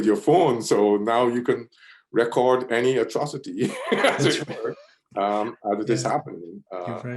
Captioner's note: laughs